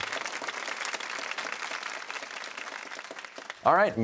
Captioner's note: applause